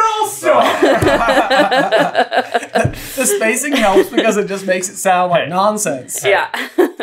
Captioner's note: laughter